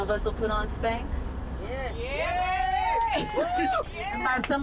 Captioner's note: cheering